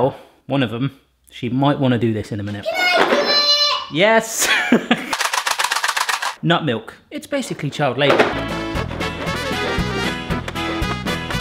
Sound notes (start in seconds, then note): 4.4 laughing; 5.1 shaking noise; 8.1 polka music